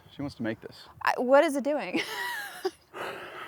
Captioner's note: laughs